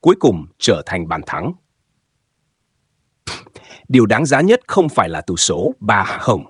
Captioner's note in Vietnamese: khịt mũi